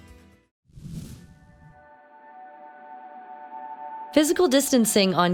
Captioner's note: air whooshing